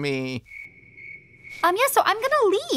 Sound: crickets chirp

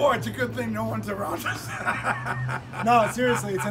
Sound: laughs

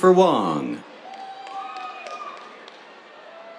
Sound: cheers, applause

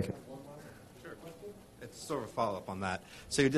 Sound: murmuring

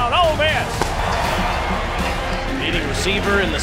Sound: cheering

